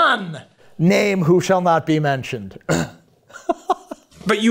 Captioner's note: chuckles